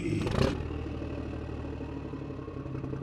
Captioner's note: engine revs